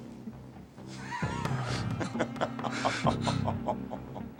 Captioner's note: Jeff laughs